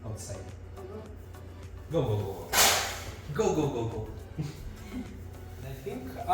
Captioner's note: laughing